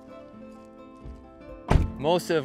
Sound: thud

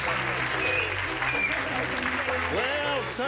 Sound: audience member wolf-whistles

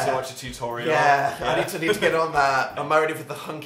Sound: laughs

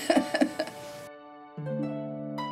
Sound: laughs; gentle classical music

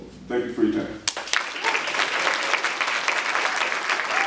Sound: applause

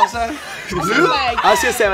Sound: squeals excitedly

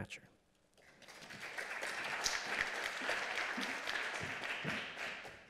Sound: applause

